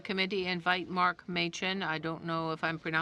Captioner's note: speaking in french